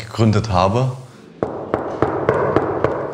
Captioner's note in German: Hohles Klopfen